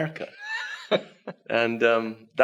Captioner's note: laughs